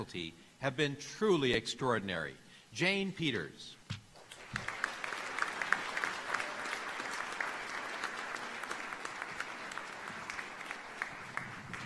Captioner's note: applause